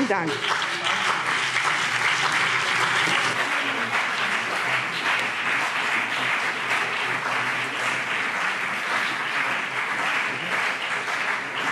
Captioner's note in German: Beifall BÜNDNIS 90/DIE GRÜNEN und CDU